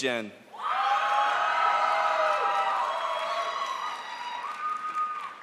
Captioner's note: crowd applauds